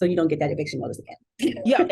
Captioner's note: laughter